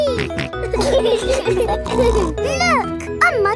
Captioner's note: laughing